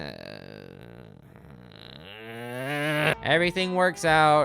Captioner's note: loathsome groaning